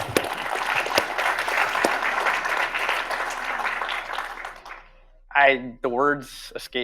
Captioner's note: audience applauding